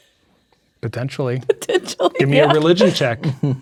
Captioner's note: laughing